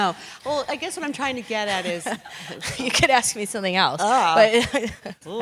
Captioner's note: laugh